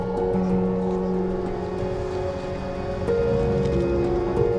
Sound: crowd chattering

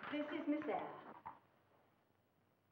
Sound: speaking in foreign language

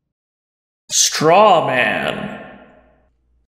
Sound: voiceover

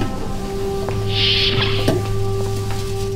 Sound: door opens

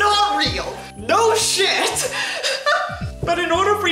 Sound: wheeze

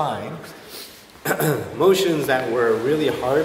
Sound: clears his throat

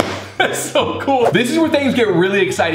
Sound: laughing

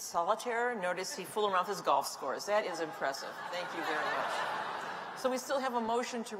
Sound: laughter

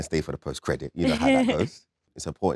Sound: Letitia chuckles

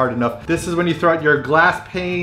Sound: none

